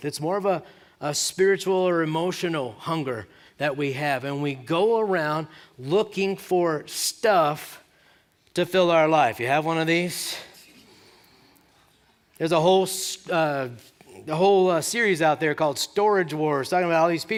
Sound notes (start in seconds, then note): 10.7 laughter